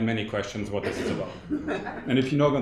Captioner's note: audience laughing